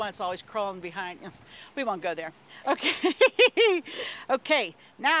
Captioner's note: laughing